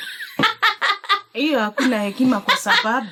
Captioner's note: laughter